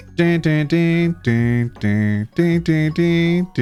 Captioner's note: humming